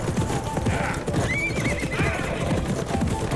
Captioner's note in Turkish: At kişneme sesi